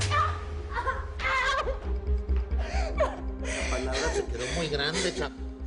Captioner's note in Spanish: Gritos y sollozos